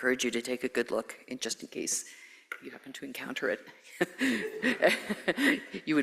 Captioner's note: laughs